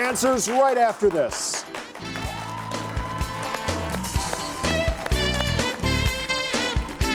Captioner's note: audience applauding; upbeat Music